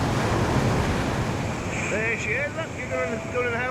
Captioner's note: waves crashing in to shore